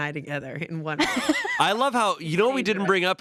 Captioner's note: laughs